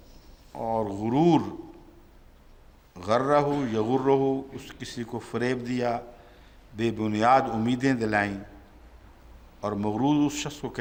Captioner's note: Arabic